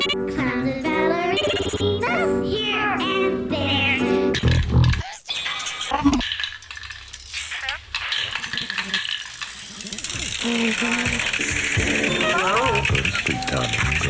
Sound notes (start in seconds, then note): 4.4 funky music; 6.2 spray can shaking